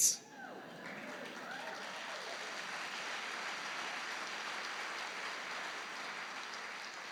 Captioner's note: applause